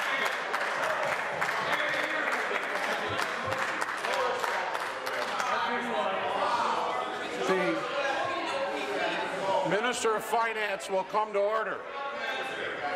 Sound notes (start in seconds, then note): 0.0 applause